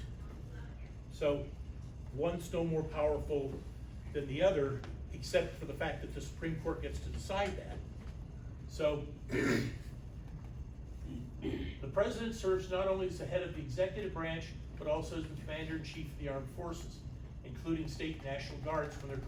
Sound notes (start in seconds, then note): 9.3 clears throat